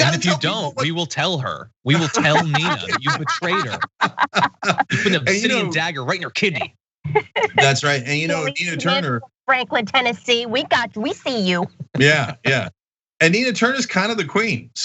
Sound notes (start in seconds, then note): 1.8 laugh